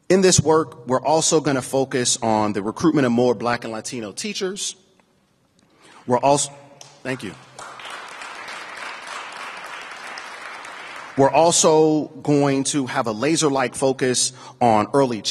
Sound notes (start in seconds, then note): 6.8 applause